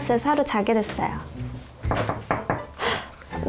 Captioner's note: knock Knock